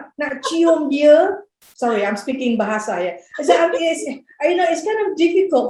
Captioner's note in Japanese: インドネシア語